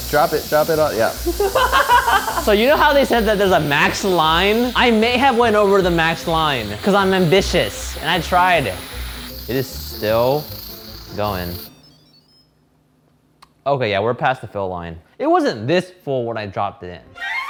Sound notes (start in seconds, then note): 1.2 laughing; 11.8 pressure cooker beeping